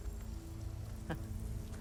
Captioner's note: laugh